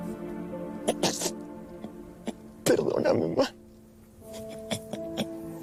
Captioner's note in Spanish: Sollozos